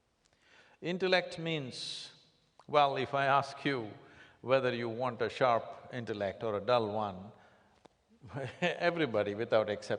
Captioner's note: laughs